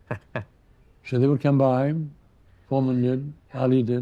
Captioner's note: chuckles